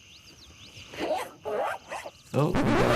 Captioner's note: zipper buzzing